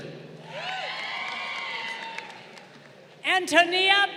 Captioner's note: crowd cheering